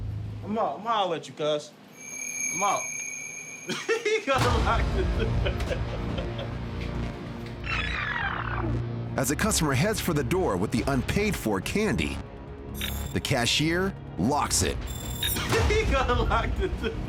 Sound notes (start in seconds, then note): 3.5 laughs; 7.5 rewinding